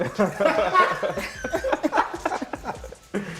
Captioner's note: laughter